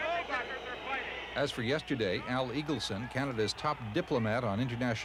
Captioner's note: crowd boos